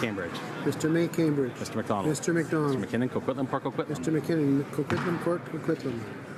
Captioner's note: speaking in french